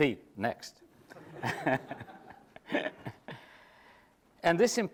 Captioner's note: laughs